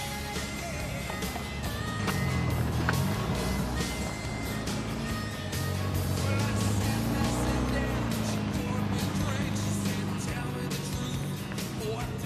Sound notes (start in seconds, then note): 1.7 gentle upbeat music; 2.9 car engine revving; 3.9 gentle upbeat music; 4.9 car engine revving